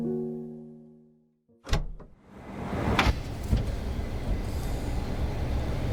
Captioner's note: trunk clicks open